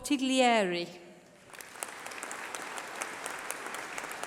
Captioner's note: applause